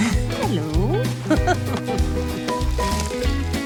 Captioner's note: laughs